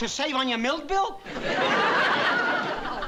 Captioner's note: laughter